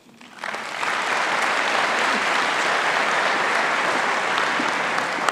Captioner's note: audience applauding